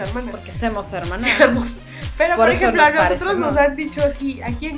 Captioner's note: in a phony accent